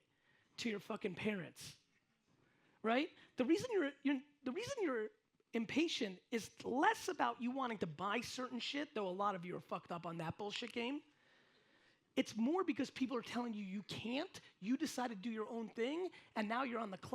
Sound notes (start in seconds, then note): none